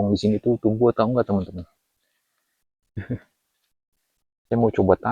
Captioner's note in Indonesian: berdehem